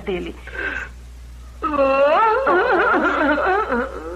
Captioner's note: sobs